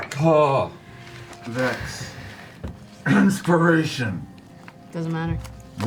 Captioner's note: coughs